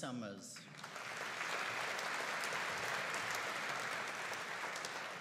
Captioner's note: audience applauding